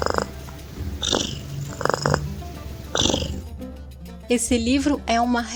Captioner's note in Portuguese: ronrom